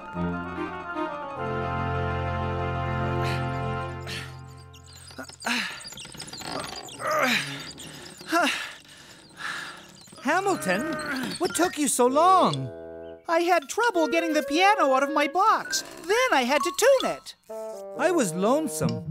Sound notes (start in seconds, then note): 3.2 gasps of effort; 6.6 grunting/panting